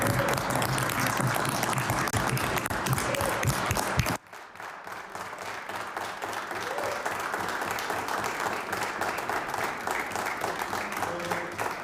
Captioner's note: applause